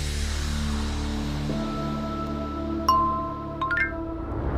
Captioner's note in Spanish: música siniestra; notificación móvil